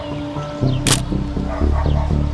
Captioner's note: camera clicking